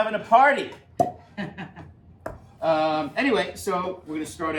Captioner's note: cork pops; laughs